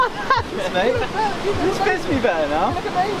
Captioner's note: laughs